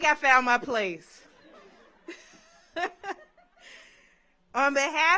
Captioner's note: audience laughs